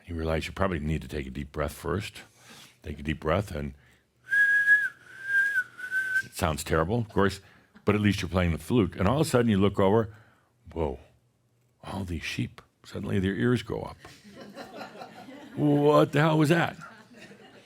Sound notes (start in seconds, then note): 4.2 he whistles a few notes; 14.8 some chuckles